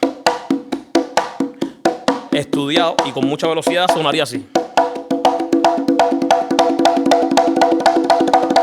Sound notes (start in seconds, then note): 0.0 upbeat conga music; 2.5 speaking in foreign language